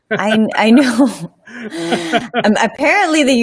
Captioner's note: laughing